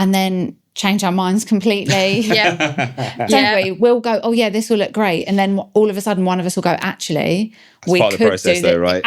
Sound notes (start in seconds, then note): 1.8 laughing